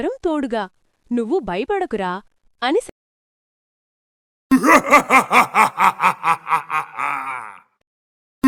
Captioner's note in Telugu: నవ్వు